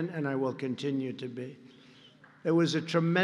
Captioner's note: applause